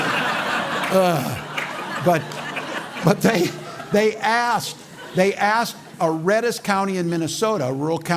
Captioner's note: laughter; sighs